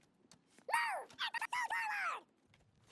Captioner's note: sound of giving orders to soldiers